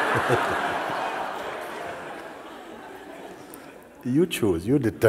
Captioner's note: laughter